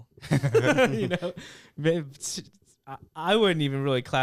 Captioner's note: laughing